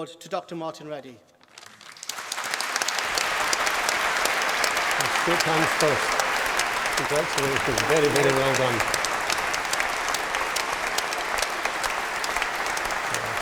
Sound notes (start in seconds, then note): 1.7 applause; 9.0 applause